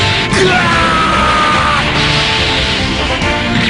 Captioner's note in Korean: 매우 고통스러워하며